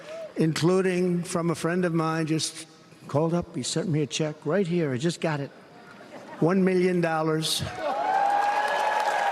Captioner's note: applause